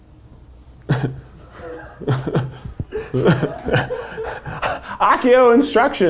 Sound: laughs; producers laughing

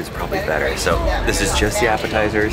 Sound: gasps

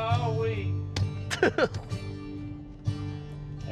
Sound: giggling

